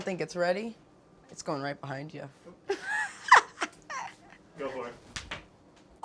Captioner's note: laughs